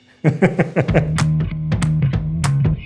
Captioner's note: laughs